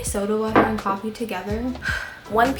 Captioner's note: sigh